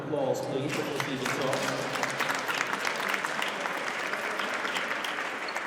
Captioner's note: audience applauds